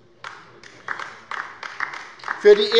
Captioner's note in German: Beifall bei der LINKEN